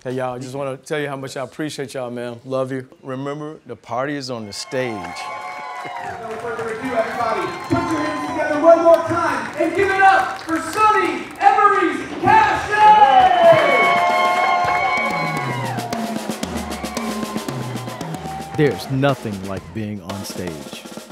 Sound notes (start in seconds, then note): 5.0 clapping; 5.3 cheering; 13.1 cheering; 15.7 drums beating